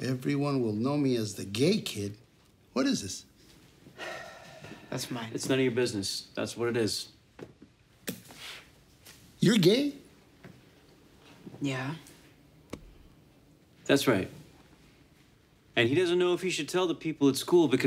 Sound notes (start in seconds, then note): 3.9 sighs